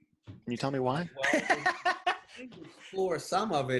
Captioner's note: laughing